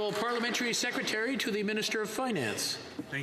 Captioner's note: some Applause